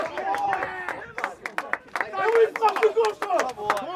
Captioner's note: crowd cheers; clapping